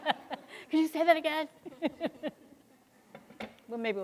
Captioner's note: laughs; laughs